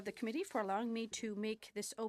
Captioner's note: speaking French